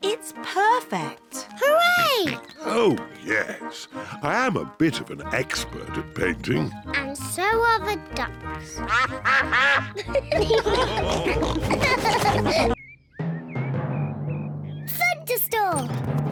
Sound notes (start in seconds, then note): 8.8 quacking; 10.7 all laugh